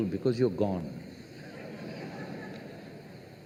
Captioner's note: laughter